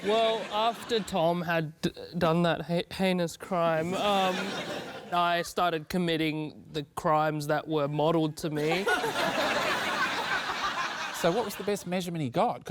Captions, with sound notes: Well, after Tom had done that heinous crime, um, I started committing the crimes that were modelled to me. (LAUGHTER) So what was the best measurement he got?